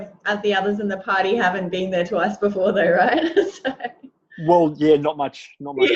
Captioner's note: laughs